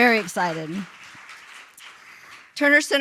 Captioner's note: applause